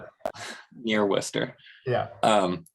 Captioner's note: chuckles